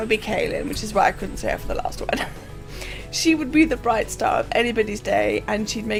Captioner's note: laughs